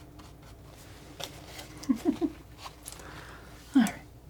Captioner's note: giggling